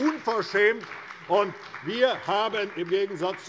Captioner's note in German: Beifall bei der CDU und dem BÜNDNIS 90/DIE GRÜNEN